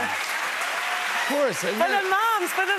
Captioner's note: cheers and applause